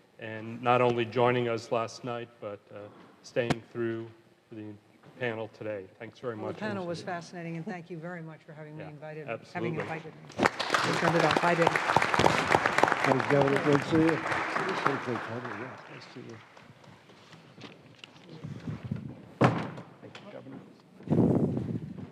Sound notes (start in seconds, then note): 10.3 audience applause